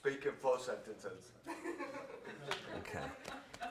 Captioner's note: crowd laughs